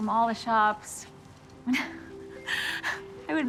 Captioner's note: laughing